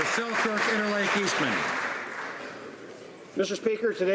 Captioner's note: applause